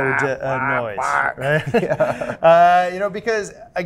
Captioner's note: imitates chicken